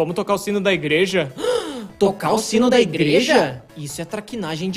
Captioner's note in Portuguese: gasp